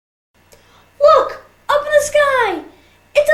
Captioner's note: child's voice